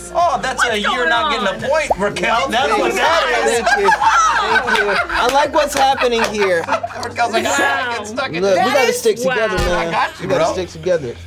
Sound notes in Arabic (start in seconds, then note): 3.4 الجميع يضحكون; 3.7 الجميع ما زالوا يضحكون